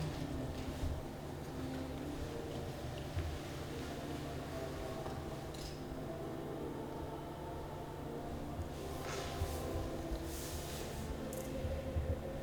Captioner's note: shuffling